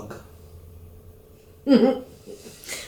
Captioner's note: giggle